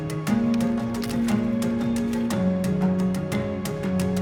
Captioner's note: leaves crunching